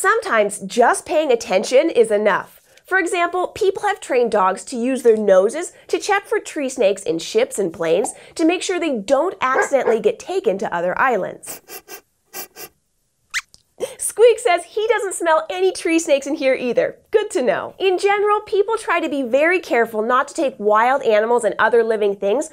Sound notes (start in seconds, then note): 11.4 squeaks sniffs around, then squeaks